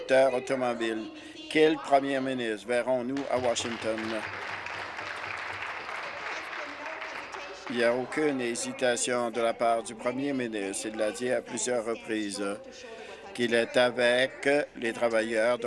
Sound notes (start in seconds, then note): 5.3 applause